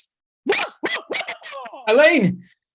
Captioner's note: screaming